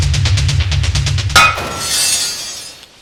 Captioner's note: metallic sounds